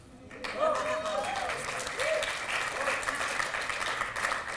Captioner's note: applause